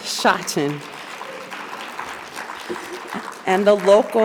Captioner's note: audience applauding